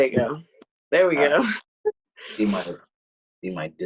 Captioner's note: laughing